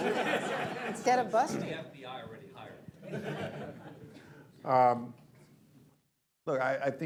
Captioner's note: laughter; laughter